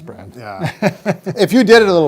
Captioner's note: laughs